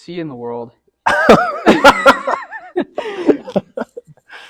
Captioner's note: laughs